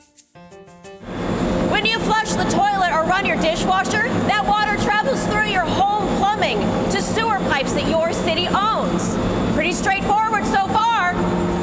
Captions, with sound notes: (machinery whirring) When you flush the toilet or run your dishwasher, that water travels through your home plumbing to sewer pipes that your city owns. Pretty straightforward so far.